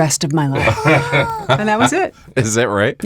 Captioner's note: laugh